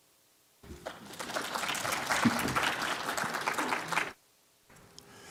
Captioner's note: applause